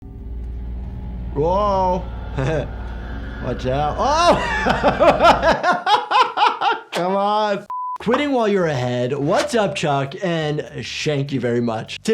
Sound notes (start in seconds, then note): 4.2 chuckles; 4.2 laughs